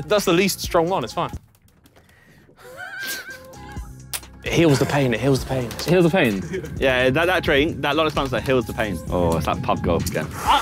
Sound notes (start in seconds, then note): 2.5 wheezes